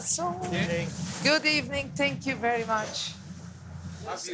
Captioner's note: in English